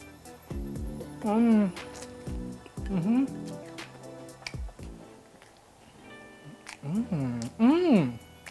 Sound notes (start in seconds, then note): 4.3 chewing